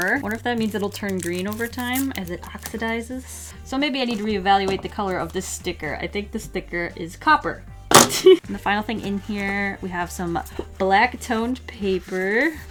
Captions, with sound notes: What if that means it'll turn green over time as it oxidizes. So maybe I need to reevaluate the color of this sticker. I think the sticker is copper. [Laughs] The final thing in here, we have some black toned paper.